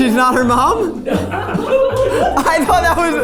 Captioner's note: crew laughing